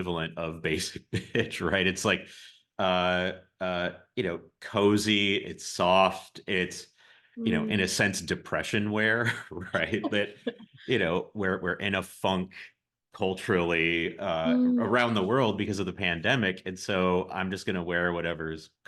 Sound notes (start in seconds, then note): 8.0 laughs